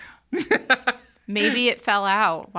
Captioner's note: laughing